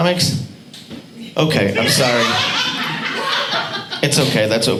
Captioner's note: audience laughing